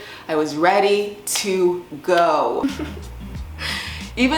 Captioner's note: laughs